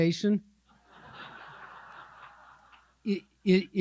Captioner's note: audience laughing